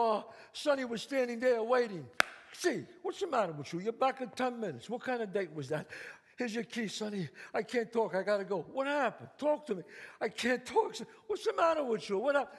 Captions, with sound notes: Sonny was standing there waiting. [claps] C, what's the matter with you? You're back in 10 minutes, what kind of date was that? Here's your key, Sonny, I can't talk, I gotta go. What happened, talk to me. I can't talk. What's the matter with you, what up?